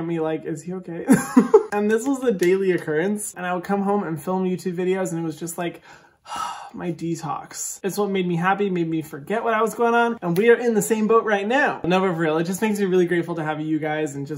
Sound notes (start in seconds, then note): 1.0 laughs; 5.8 exhales